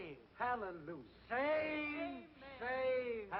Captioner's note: slurring his speech